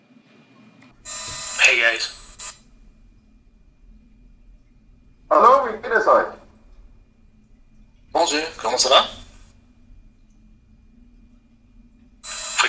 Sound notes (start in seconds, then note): 5.6 speaking foreign language; 9.5 desktop speaking foreign language